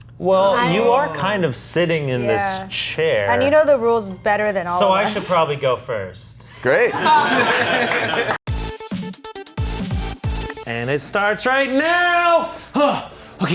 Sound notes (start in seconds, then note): 6.8 everybody laughing; 8.6 upbeat music